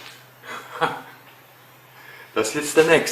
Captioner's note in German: Lacht